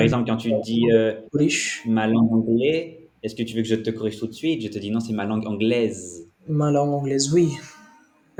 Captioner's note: English language